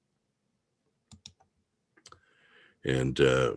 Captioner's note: mouse clicking